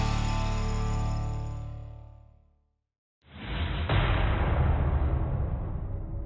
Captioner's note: metallic clash